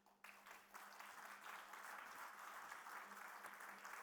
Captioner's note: applause